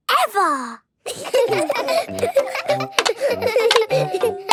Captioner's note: laughter